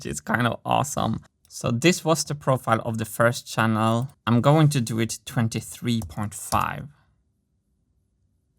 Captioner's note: keystroke